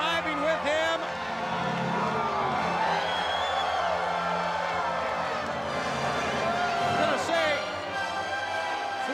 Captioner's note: applause